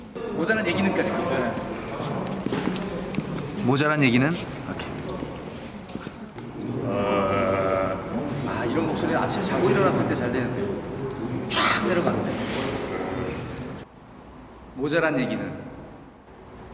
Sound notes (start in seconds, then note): 10.8 husky voice